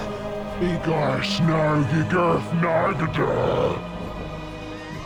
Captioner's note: speaks in foreign language